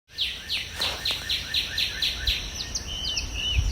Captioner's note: birds chirping